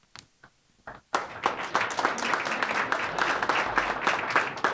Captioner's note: audience applauding